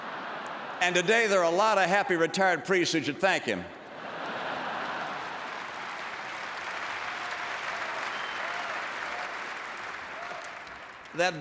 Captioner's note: laughter; laughter and applause